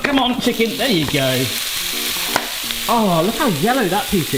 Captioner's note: pan sizzling; upbeat music